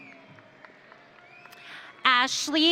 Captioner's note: audience applauding